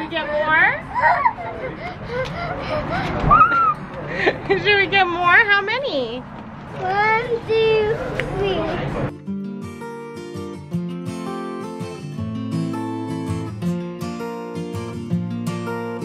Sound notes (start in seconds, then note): 1.5 pants; 9.1 bright music